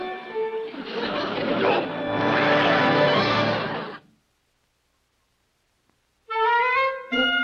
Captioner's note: audience laughs; dramatic music; Colonel grunts; jaunty upbeat music